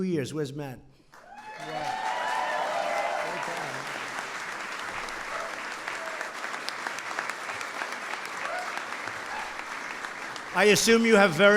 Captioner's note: applause